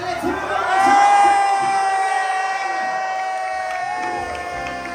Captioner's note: crowd cheering